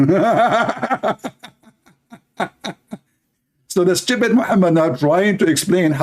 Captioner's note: laughter